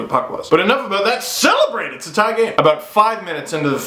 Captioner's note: excited voice